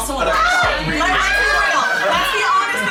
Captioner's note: screams